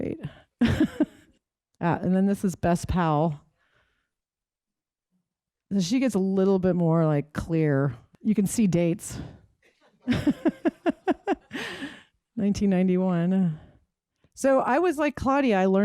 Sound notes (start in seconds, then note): 0.6 laughs; 9.7 laughs